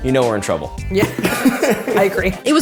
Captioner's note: laughing